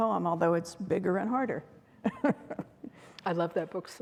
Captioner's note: chuckles